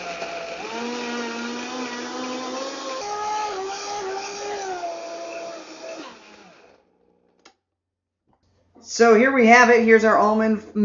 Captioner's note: grinding